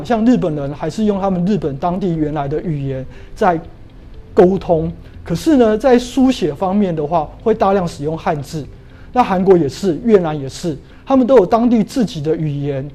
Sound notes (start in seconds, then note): 6.1 chinese words